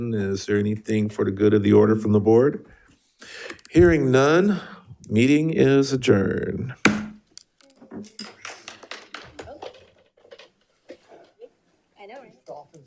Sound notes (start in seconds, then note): 6.8 gavel thuds; 8.4 attendees applauding